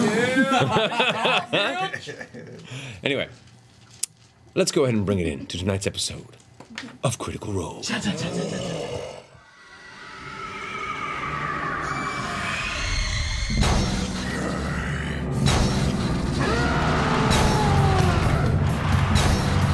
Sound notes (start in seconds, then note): 0.0 all laugh